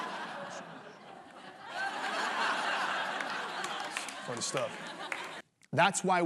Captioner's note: laughter